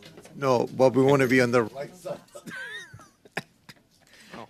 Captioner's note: laughter